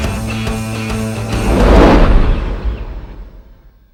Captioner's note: swoosh